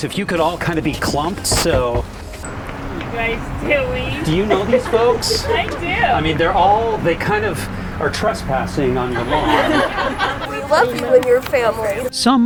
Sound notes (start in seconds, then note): 10.0 crowd laughing